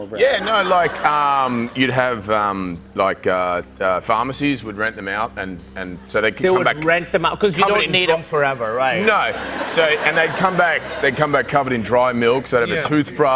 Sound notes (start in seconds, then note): 9.2 laughter